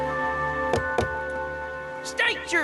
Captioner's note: knock knock